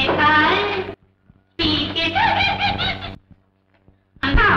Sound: giggles

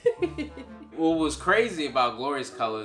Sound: laughing

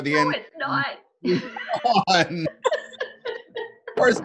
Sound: laughing

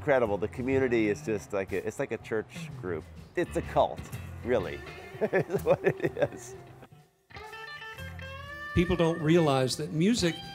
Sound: laughter

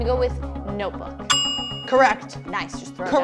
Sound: bell dings

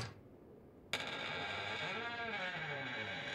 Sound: door creaks open

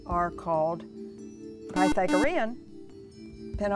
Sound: buzzer

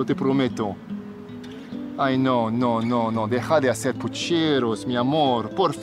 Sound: Alejandro speaking Spanish

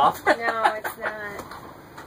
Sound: laughs

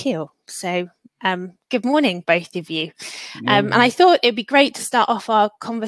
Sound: erm

